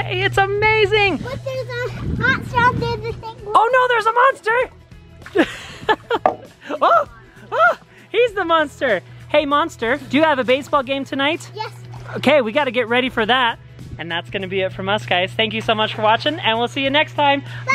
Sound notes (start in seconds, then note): 1.4 babbling; 7.4 laughs